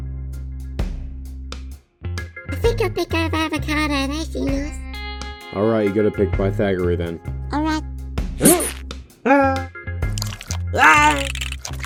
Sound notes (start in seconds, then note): 7.5 Pythag. & HPs gasp; 9.2 Avocado screams; 10.7 Pythagoreay screams